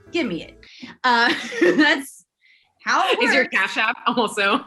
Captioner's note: laughter